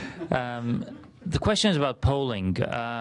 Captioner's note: laughter